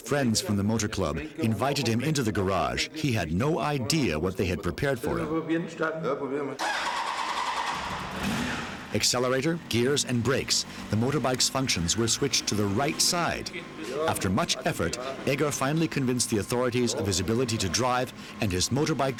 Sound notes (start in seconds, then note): 0.1 speaking in foreign language; 11.8 motorbike engine starting